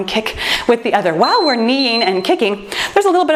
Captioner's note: timer beeps